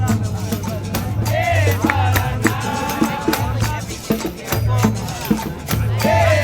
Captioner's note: all vocalizing